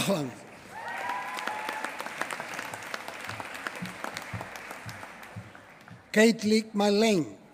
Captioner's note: applause